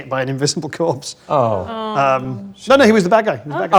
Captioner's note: group groans